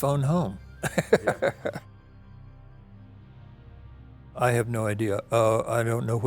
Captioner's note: laughs